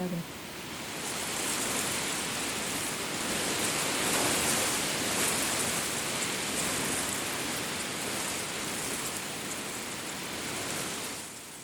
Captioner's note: reeds rustling loudly in the wind